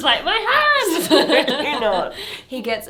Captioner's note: laughing